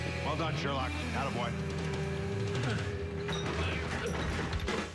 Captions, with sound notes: WELL DONE, SHERLOCK. ATTABOY. (grunts)